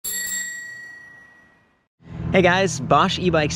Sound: bell rings

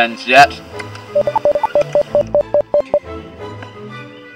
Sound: electronic beeping

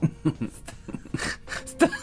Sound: laughter

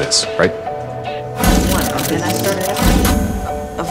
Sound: cameras clicking

